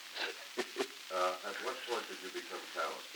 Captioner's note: laughter